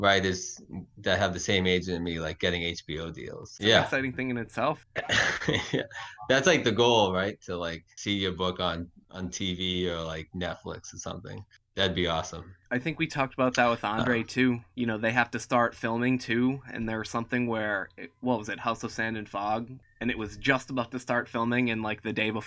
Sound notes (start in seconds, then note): 4.9 chuckles